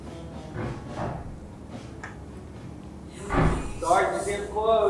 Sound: knocking at door

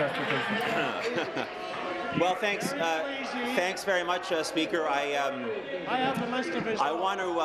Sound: applause

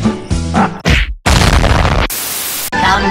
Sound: explosion

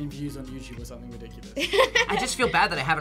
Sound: laughs

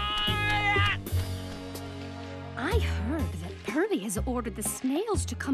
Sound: groaning

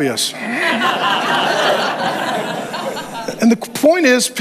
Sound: congregation laughs

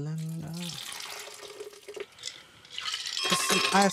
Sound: beer splashing; ice clanking

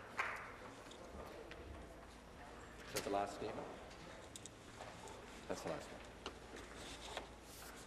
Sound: applause

